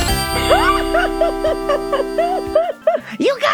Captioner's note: espio/marge laughing